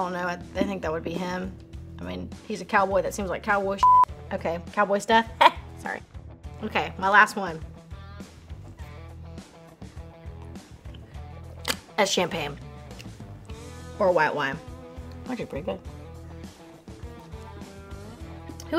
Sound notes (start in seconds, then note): 3.8 beep